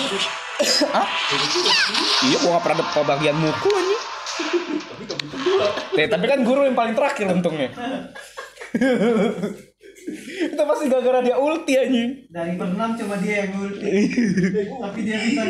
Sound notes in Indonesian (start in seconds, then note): 8.0 giggles